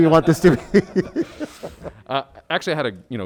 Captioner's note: all laugh